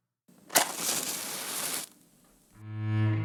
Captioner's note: flame crackling; dramatic music